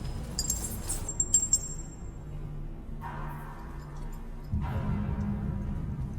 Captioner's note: ominous music; pipes clanking